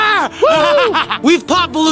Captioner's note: manic laughing